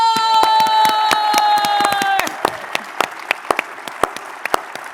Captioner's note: audience clapping and cheering